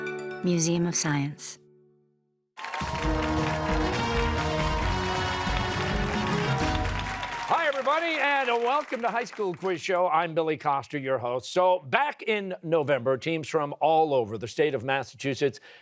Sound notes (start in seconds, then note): 2.6 cheers and applause